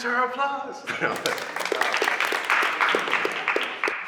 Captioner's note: clapping